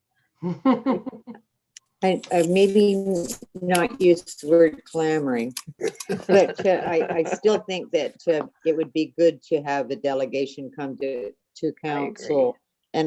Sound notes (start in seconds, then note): 0.4 laughing